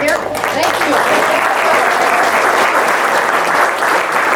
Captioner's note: audience claps